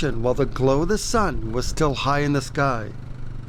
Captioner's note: none